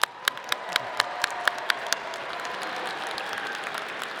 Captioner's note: audience applauding